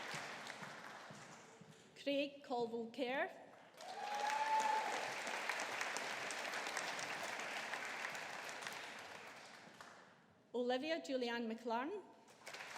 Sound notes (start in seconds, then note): 3.8 audience applauding; 12.4 audience applauding